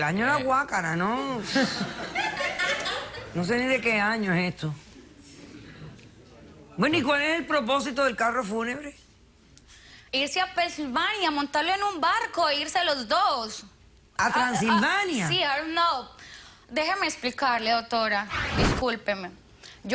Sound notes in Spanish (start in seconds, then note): 1.4 risas